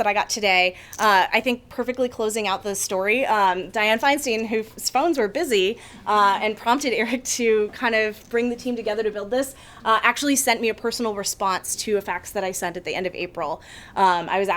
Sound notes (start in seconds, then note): none